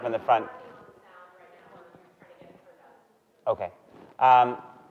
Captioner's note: audience member speaking softly